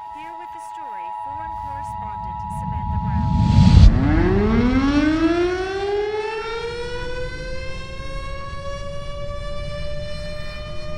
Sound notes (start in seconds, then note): 4.8 warning sirens